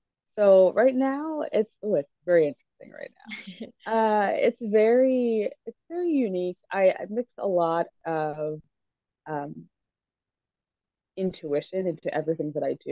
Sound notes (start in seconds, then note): 4.5 laughs